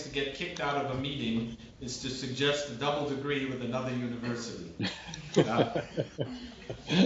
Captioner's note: laughter